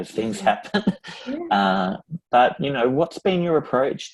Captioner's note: laughs